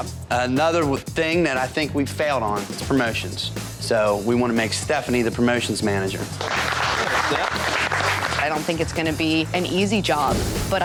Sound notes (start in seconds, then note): 6.2 applause